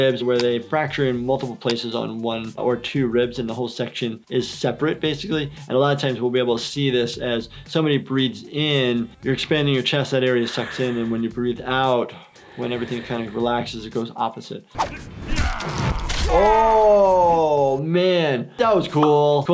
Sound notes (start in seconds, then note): 15.5 yelling